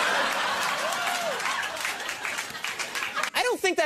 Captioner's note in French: applaudissements